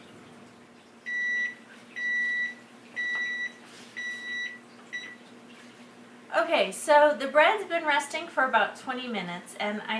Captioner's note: beep beep